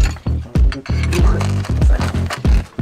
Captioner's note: in Swiss German